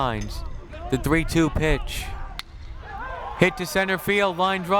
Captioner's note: bat cracks